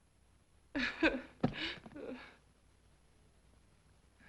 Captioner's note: Ruth sobbing